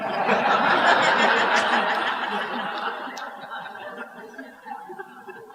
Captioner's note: laughter